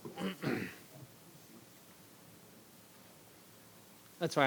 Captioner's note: clears throat